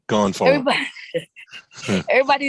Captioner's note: chuckling